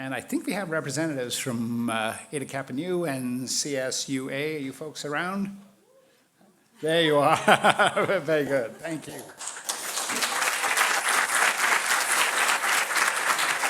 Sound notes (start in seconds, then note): 7.1 laughing; 8.8 crowd applauding